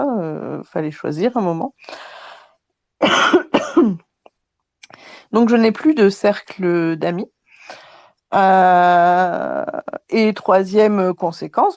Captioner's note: cough